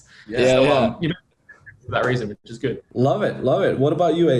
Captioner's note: speaks faintly